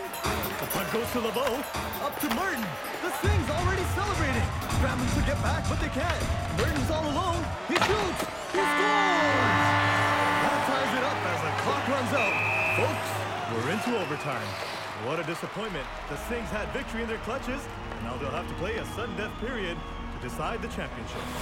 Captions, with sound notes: - The puck goes to LeBeau, up to Martin, the Singhs already celebrating. Scrambling to get back but they can't. Murden's all alone, he shoots, he scores! (buzzer) That ties it up as the clock runs out. (whistling) Folks, we're into overtime. - What a disappointment. The Singhs had victory in their clutches, now they'll have to play a sudden death period to decide the championship.